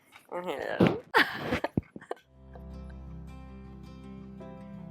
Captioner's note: laughs